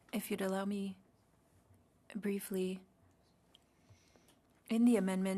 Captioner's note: speaking French